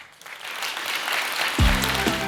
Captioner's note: applause